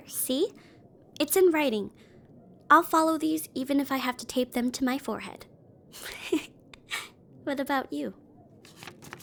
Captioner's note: giggles